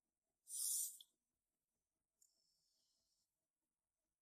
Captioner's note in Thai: เสียงสูดหายใจ